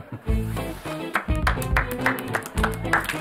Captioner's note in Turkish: Alkış sesi